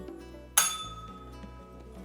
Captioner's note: bell rings